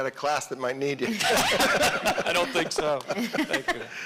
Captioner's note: audience laughing